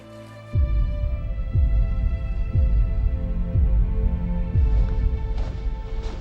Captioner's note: timer ticking